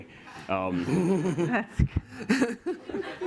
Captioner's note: laughter